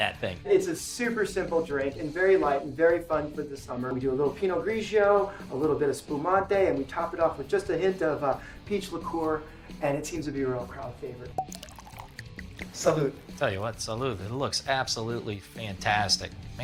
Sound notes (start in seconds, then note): 11.3 cork pops; 11.4 liquid flowing